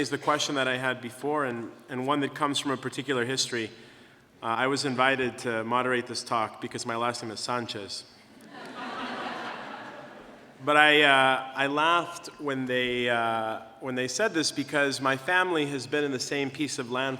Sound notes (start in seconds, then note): 8.4 laughter